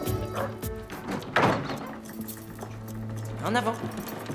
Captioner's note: dramatic music; door clangs